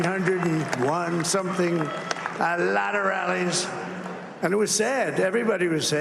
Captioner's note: cheers and applause